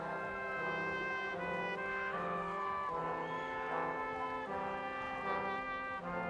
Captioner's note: crowd cheering